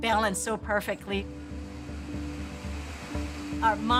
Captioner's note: blades whirring